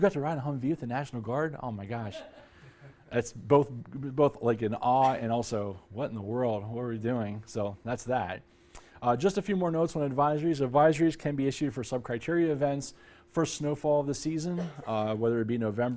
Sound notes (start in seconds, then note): 2.1 laughter